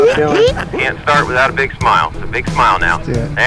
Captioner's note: ground Radio